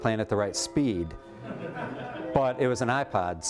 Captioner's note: laughter